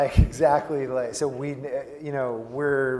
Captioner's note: laugh